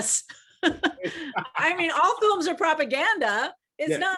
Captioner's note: laughs